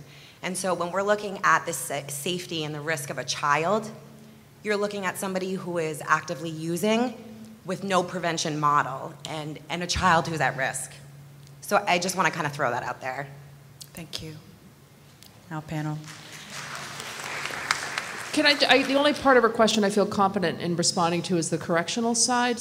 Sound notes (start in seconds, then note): 16.0 applause